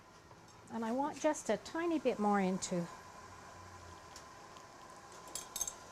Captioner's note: hose jingling